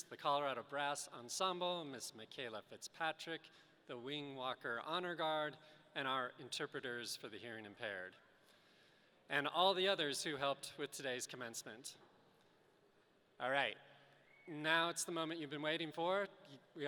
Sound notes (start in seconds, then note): none